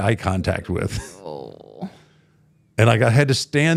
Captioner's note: host groans